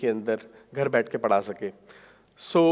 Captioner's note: speaking in foreign language